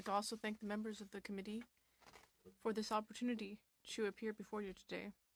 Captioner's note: speaking French